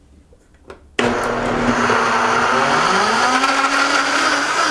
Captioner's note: whirring